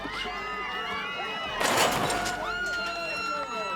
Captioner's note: people shouting